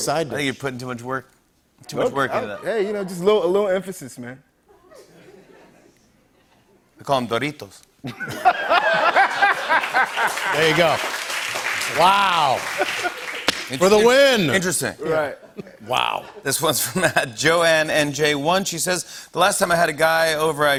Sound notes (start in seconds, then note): 4.7 laughter; 7.1 Spanish accent; 8.1 laughter and applause; 13.0 normal voice